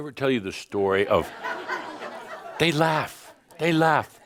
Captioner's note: laughter